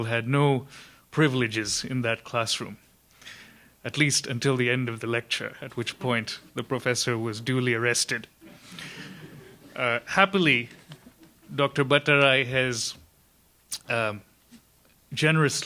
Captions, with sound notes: had no privileges in that classroom, at least until the end of the lecture, at which point the Professor was duly arrested. (audience laughs) Happily, Dr.Bhattarai has generously spoken here